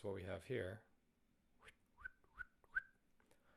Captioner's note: whistling Sounds